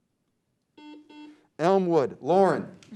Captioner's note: beep